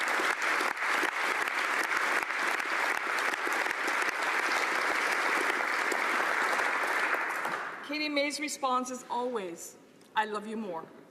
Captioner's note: applause